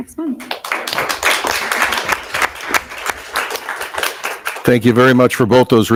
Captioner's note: attendees applauding